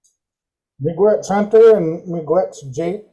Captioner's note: speaking in Native language